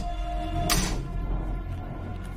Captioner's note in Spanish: Clic